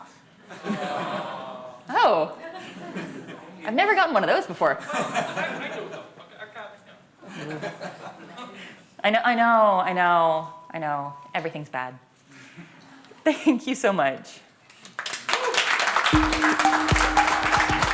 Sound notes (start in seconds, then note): 0.4 crowd; 4.8 laughter; 14.7 applause